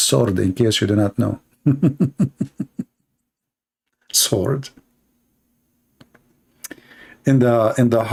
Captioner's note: Ketawa